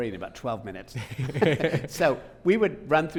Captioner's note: both laughing